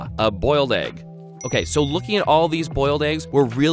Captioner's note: dings